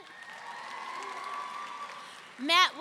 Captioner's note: audience cheering